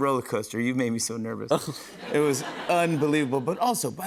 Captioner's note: laughter